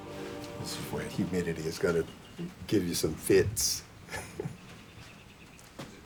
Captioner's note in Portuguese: risos